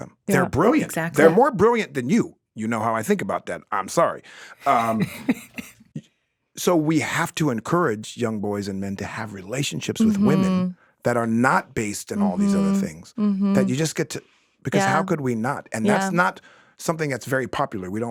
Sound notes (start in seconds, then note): 4.6 chuckles